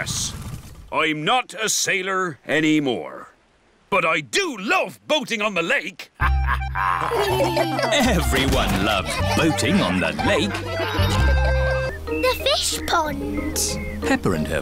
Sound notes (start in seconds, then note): 6.2 chuckles; 6.2 all laugh